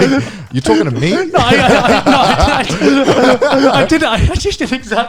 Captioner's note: laughing